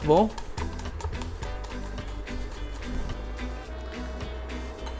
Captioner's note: chopping sounds